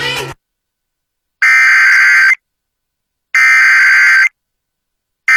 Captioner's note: SAME header tones